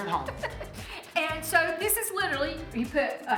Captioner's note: laughs